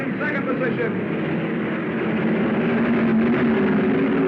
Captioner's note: cars revving